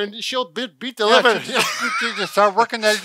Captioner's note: chuckles